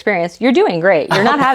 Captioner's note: laughs